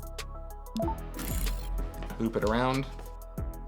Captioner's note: soft electronic chime